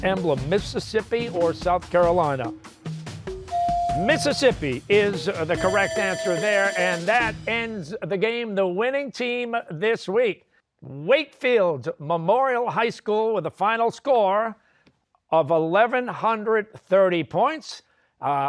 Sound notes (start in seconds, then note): 5.5 bell ringing